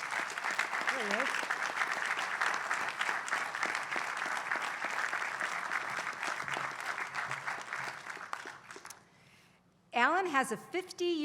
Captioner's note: applause